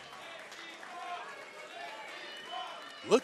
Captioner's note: fans chanting